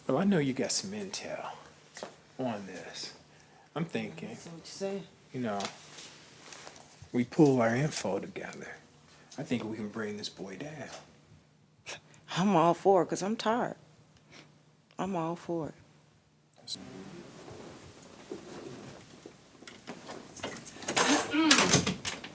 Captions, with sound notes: Oh I know you got some Intel on this. I'm thinking, you know. We pull our info together. I think we can bring this boy down. - I'm all for it because I'm tired. I'm all for it. [keys jingling] [woman clear throats]